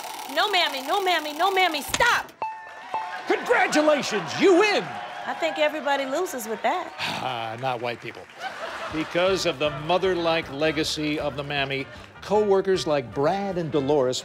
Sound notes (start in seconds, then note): 8.2 laughter